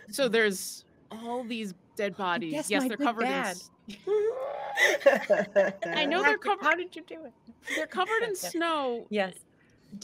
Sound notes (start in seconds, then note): 4.1 screeching; 4.6 group laughing